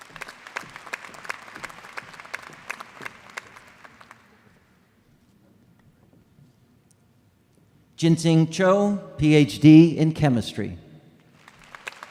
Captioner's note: applause